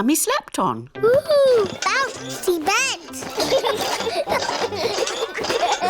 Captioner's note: children laugh